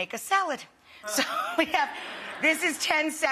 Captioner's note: crowd laughing